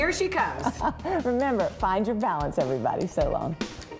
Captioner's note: laughs